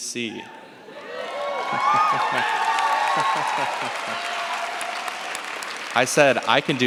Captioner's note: cheers, applause